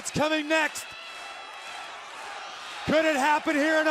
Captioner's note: crowd cheering